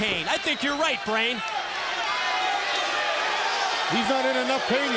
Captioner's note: crowd chatter